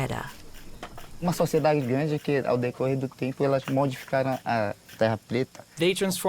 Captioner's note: speaking Portuguese